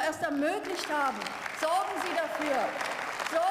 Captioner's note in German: Beifall